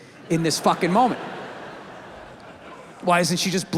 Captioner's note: audience laughs